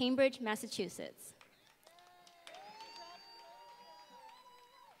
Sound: applause

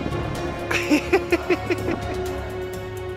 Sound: laughter

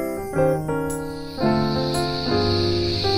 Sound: loud cicadas fade in as music comes to a close

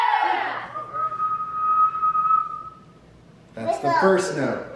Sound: whistles

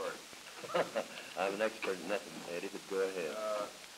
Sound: chuckles

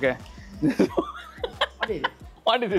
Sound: laughs

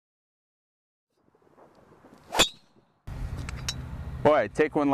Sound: sound of golf club hitting ball

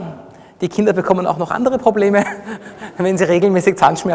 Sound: laughs

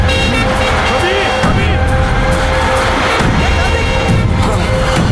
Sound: horn blares

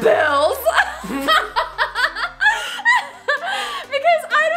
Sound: laughing

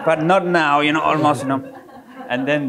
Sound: audience laughing

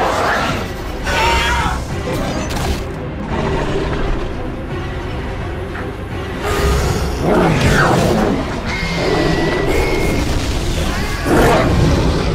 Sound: screeching and roaring sounds

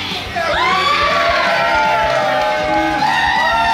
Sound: crowd cheering

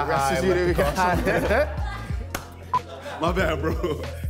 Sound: laughs

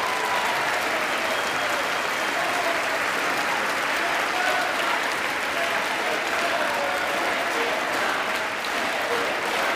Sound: applause

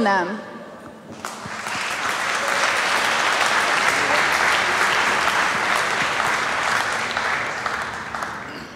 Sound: applause

